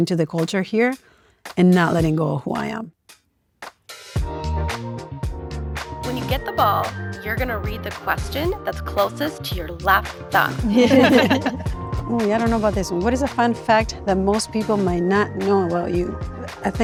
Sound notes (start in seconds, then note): 4.3 bright music; 10.6 group laughing